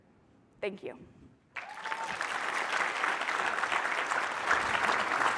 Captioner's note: applause